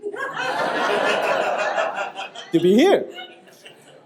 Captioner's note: audience laughing